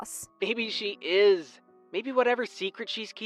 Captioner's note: phone vo